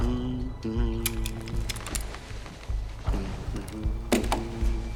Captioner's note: weapons clicking